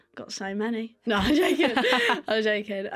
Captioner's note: laughter